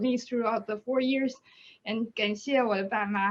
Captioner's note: speaks in Chinese